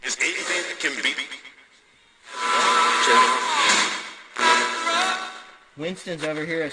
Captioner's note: radio static